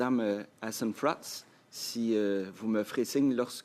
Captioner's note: speaking French